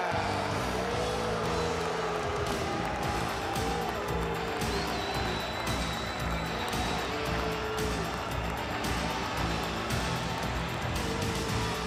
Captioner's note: crowd cheering